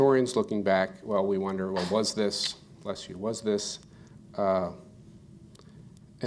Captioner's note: audience member sneezes